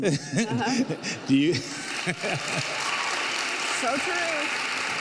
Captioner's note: laughs; audience cheers